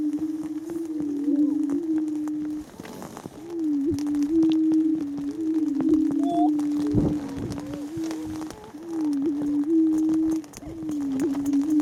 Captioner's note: greater prairie-chicken "booming" sounds